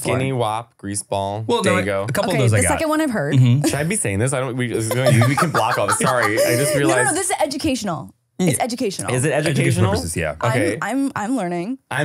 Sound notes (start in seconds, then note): 4.8 laughing